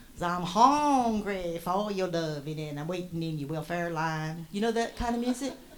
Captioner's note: sing-songy